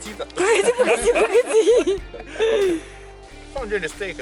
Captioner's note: laugh